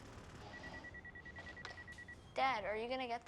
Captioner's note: phone beeps